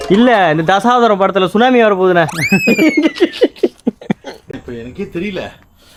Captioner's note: laughter